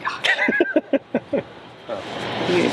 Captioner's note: laughs